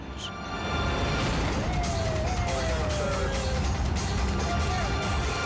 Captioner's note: siren blaring